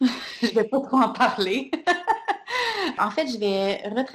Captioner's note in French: rires